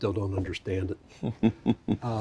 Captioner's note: chuckles